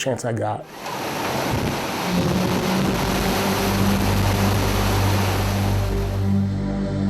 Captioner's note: air swooshing; ominous music